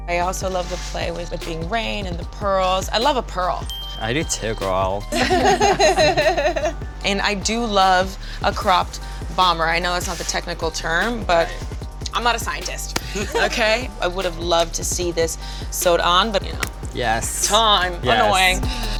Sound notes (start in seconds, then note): 3.6 bright dinging; 4.4 judges laughing